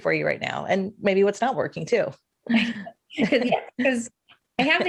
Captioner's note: laughs